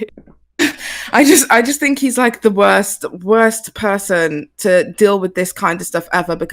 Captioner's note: laughs